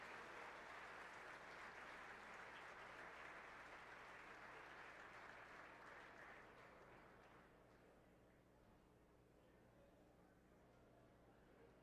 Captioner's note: cheers and applause